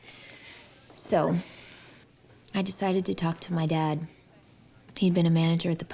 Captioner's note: sighs